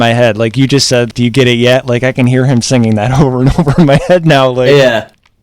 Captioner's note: laughs